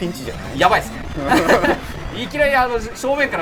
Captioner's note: laugh